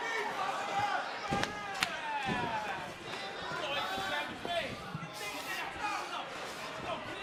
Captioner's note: cheers and applause